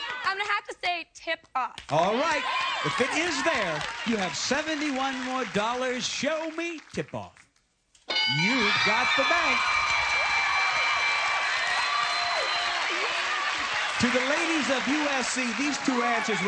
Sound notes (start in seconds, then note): 8.1 ding; 8.3 applause, cheering